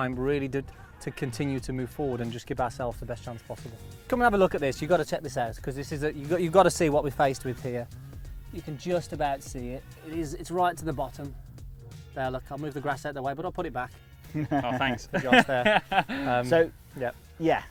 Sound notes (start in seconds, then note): 14.3 laughing